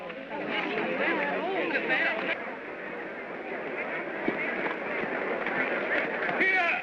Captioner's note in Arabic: ثرثرة حشد غير واضحة